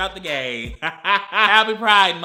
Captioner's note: laughs